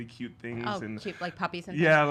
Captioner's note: laughs